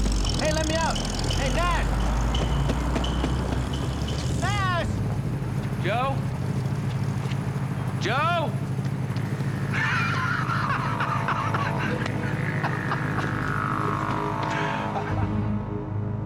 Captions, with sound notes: Hey, let me out! Hey, Nash! (pounding) Nash! - Joe? Joe? (laughing)